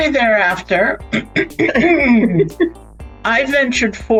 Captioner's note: clears throat; laughs